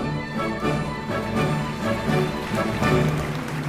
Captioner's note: happy noises